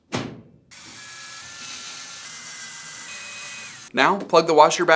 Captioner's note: drill screeching